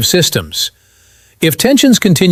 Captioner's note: sighs